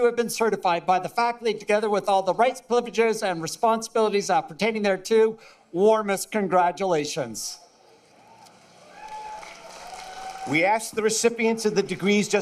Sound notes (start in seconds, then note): 8.6 applause